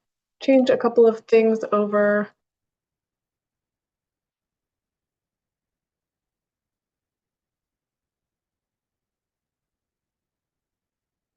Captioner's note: pause